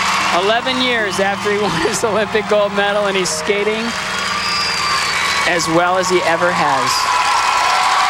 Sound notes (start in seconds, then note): 1.8 applause